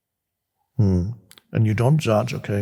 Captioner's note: Eckhart moans